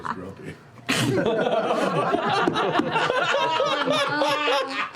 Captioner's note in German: Gelächter